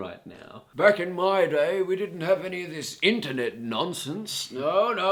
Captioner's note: old man voice